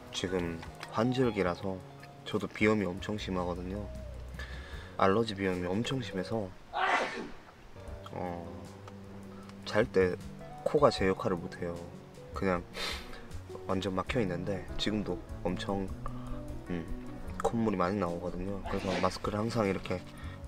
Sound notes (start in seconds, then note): 6.7 sneezing